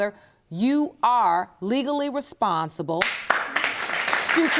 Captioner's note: audience applauding